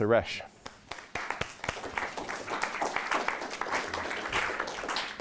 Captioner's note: audience applauding